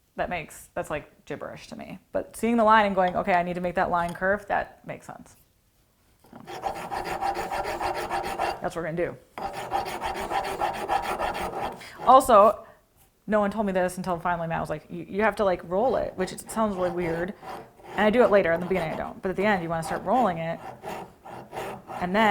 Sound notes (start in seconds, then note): 6.2 rasp scratches against wood